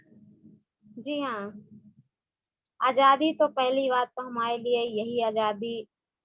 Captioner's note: speaks foreign language